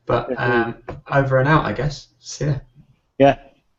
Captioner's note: laugh